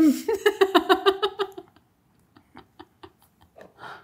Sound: laughing

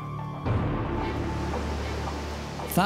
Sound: waves crashing

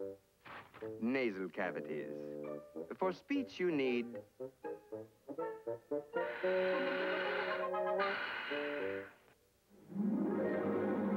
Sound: breathing

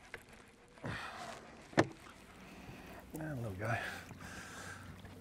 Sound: reel cranking

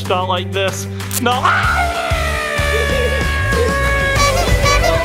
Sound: screaming; people laughing; happy upbeat music

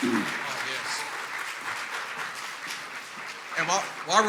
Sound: clapping and cheering

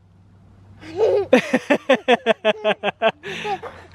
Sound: laughs

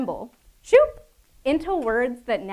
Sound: replicating air whooshing

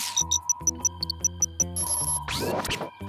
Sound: satellite beeps

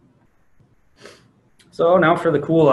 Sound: sniffs

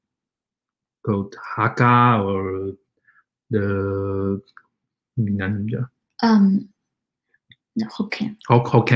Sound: speaks mandarin

